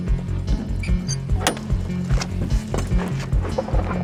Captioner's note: latches creaking